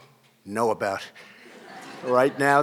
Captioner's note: laughter